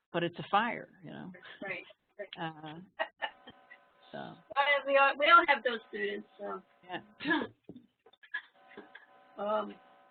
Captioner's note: background laughing